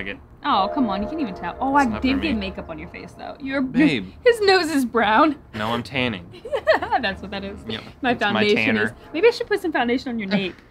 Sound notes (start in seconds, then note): 6.4 laughs